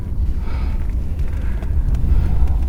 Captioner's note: engine revving